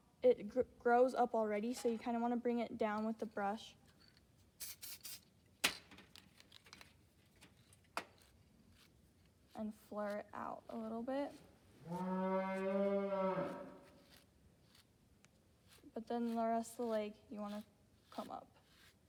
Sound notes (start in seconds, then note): 11.8 cow mooing; 13.4 brush noises